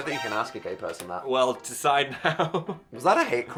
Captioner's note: laughing